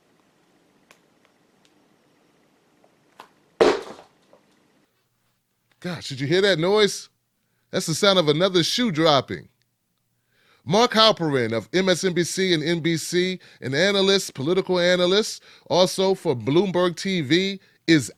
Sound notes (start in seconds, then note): 3.6 shoe thuds